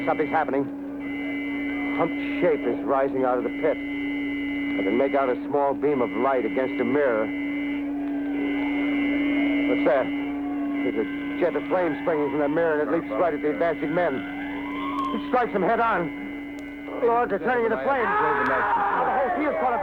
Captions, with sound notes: Something's happening. A humped shape is rising out of the pit. I can make out a small beam of light against a mirror. ( people shouting, siren wailing ) But there, there's a jet of flame springing from that mirror and it leaps right at the advancing men. It strikes them head on! Lord, they're turning into flames... ( man yells in agony )